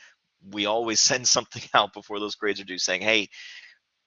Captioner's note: laughter